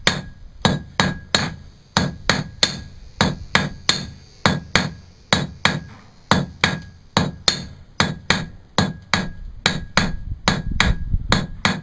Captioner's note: hammering noises